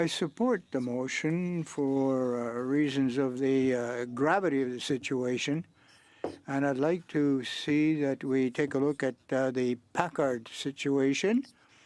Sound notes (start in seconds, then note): 1.5 speaking French